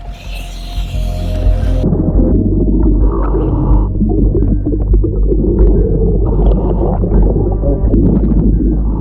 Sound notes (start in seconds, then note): 0.0 oxygen mask hums; 2.5 water bubbles